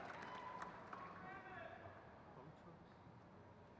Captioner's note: crowd claps